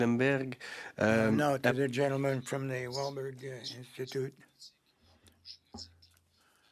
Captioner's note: speaking French